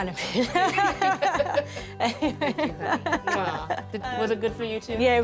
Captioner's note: chuckles